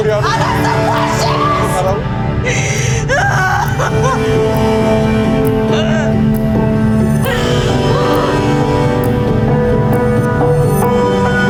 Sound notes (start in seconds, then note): 2.5 cries; 5.4 intense music